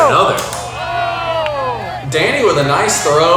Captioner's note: crowd cheers